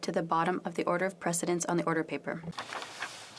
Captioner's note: speaking French